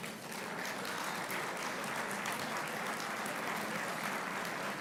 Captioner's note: applauding